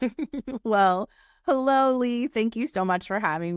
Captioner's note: chuckling